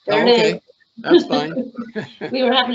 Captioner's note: laughing